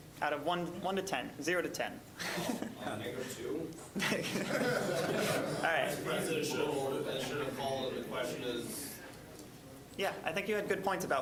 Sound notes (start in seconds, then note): 3.9 all laughing; 6.6 general chatter